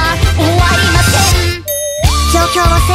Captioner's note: ring